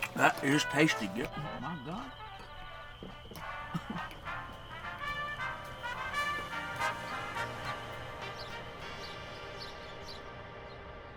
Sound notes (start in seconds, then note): 1.5 crickets; 10.3 morning birds